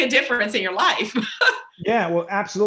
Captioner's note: laughs